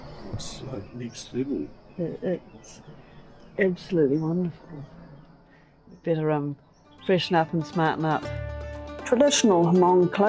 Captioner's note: birds chirping